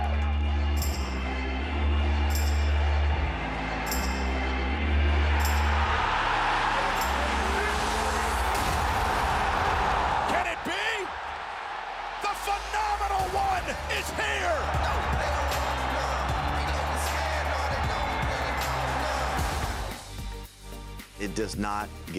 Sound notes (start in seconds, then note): 0.1 intense music; 6.4 crowd cheers loudly; 15.3 crowd cheers; 20.0 upbeat music